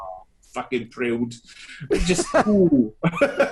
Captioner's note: laughs loudly